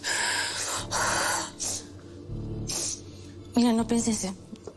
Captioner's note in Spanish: Sollozos